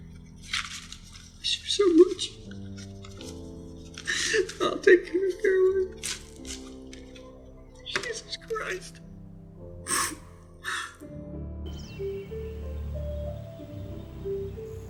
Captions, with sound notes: I miss you so much. I'll take care of Caroline. (sobs) Jesus Christ. (mellow music)